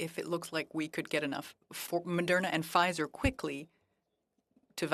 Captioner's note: speaking French